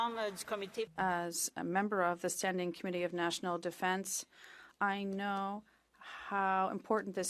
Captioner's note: speaking French